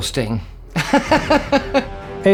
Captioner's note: laughs